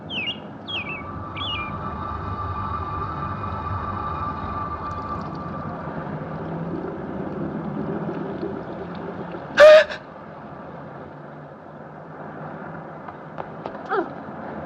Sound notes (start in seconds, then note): 0.6 chirping continues; 9.5 gasps